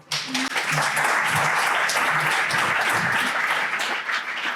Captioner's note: crowd applauding